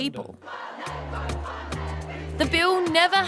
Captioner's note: chanting